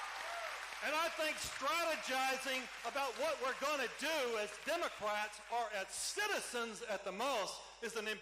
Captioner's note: cheering